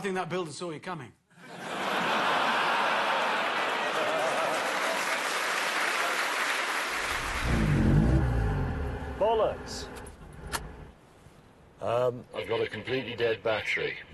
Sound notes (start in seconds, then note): 3.4 laughs; 4.8 applause; 7.1 engine gives out